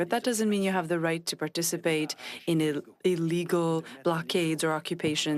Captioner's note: speaking French